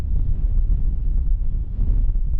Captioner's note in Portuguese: som do vento